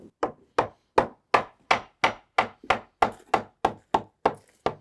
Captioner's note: hammer pounding